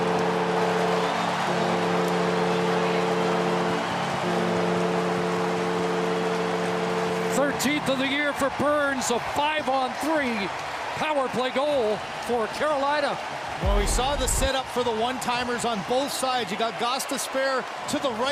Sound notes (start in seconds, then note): 4.7 horn Sounding; 6.1 cheering and Applause